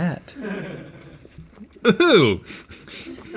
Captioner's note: crew sniggering